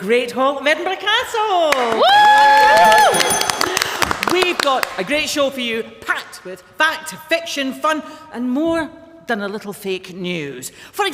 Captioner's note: applause